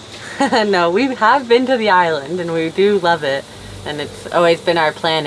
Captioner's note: chuckles